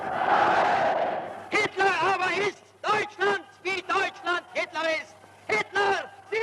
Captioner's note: speaking German